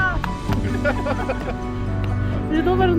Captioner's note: speaking in foreign language; laughing